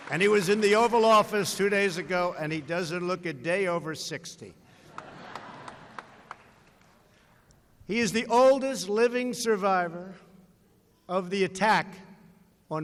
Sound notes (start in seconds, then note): 0.0 applause; 4.8 laughter